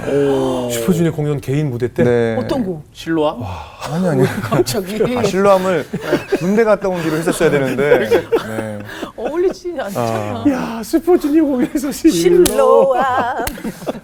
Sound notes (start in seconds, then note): 4.1 laughing